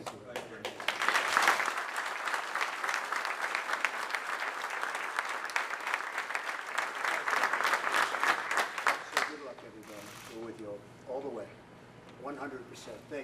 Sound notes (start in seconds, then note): 0.0 applause